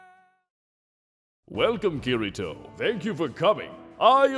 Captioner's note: Stoic voice